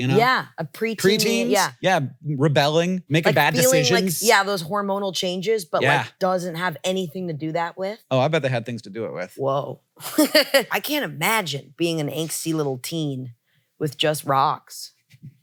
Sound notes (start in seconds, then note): 10.0 laughs